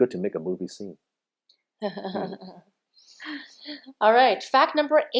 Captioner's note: chuckling